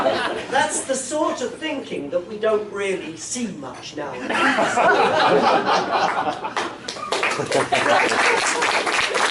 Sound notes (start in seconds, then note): 0.0 laughter; 4.4 laughter, applause